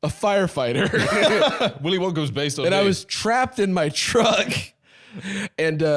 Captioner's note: laughs